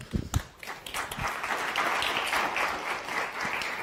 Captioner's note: audience clapping